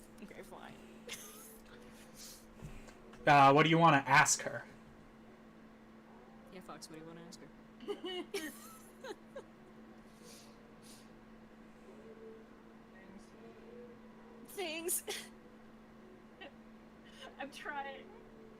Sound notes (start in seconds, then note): 7.9 laughs; 14.5 strained